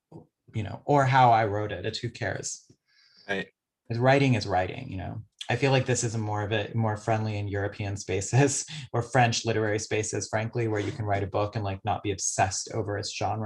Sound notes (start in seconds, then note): 8.5 chuckles